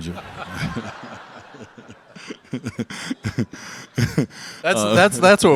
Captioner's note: Tom, Dwyane, and audience laugh